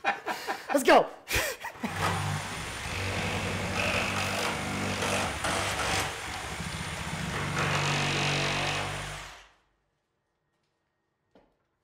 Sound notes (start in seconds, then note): 0.0 both laughs; 1.9 drill buzzing